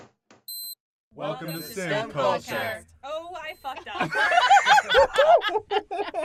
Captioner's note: laughter